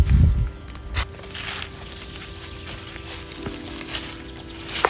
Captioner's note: leaves crunching underfoot